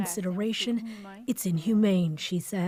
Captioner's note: speaking French